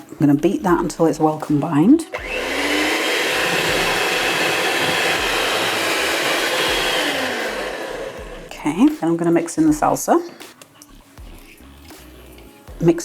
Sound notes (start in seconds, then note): 8.6 cake mixer whirring